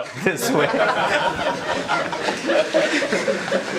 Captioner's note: audience laughs